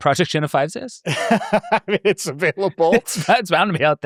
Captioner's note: laughs